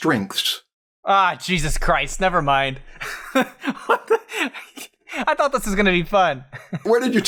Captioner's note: laughs